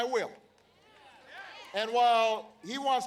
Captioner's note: applause